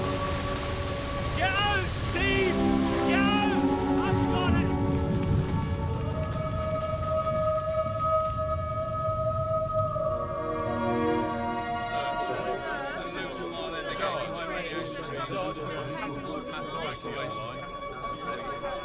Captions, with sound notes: Get out, Steve. Get out. I'll spot it. (people chattering)